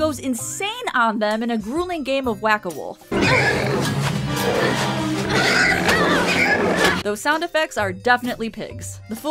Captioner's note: pig squealing sounds